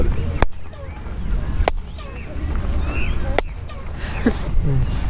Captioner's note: clapping and bird-like echo